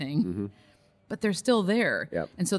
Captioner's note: hums in agreement